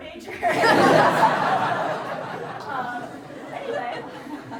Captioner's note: everyone laughing